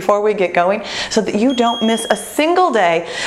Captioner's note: ding